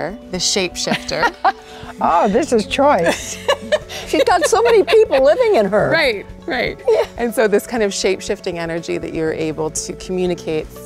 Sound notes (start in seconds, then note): 2.7 laughs